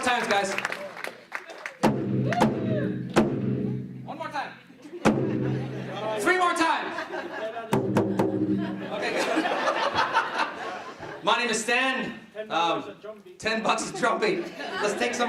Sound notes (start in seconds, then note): 1.7 drumming; 7.7 drumming; 8.5 laughing